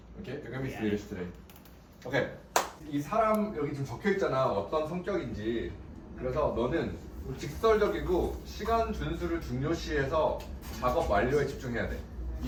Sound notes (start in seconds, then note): 2.5 clap